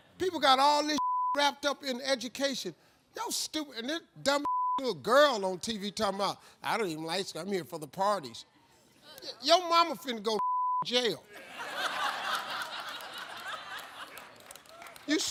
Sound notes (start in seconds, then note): 1.0 beep; 4.4 beep; 10.4 beep; 11.3 audience laughs